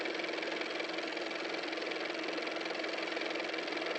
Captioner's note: car motor